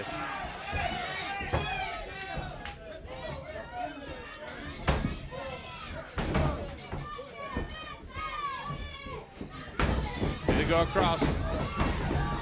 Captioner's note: crowd chatter